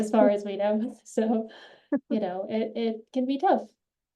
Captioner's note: laughs